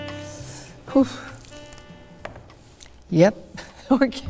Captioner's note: upbeat jazz music; sharp inhaling; laughs